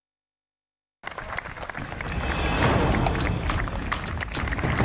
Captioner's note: applause